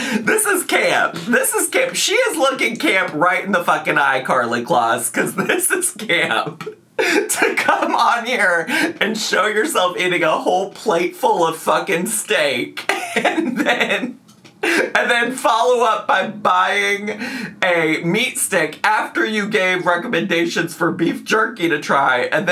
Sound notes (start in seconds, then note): 5.1 laughing; 12.8 laughing